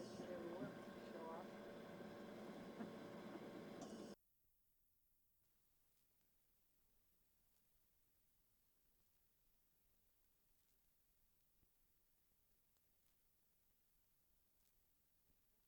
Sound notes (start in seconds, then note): 4.1 silence